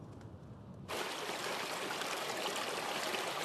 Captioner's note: water rushing